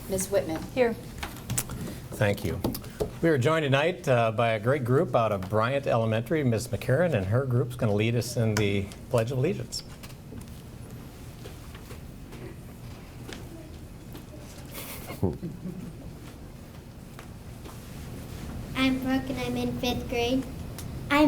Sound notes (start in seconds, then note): 14.6 people chuckle